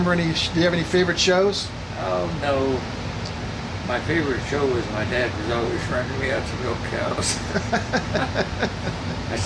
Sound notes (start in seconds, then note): 7.2 laughs